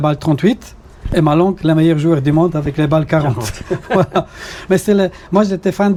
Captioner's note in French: rires